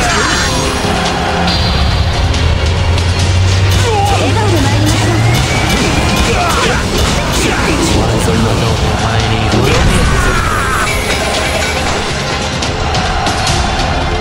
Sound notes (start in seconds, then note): 9.9 scream from explosion